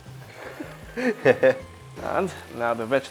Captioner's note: laughs